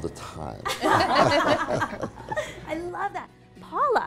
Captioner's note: laughing